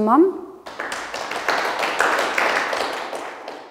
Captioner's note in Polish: oklaski